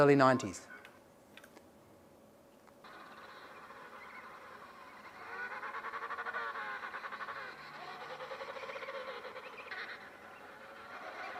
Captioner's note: emperor penguin sounds